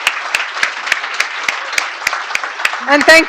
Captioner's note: applause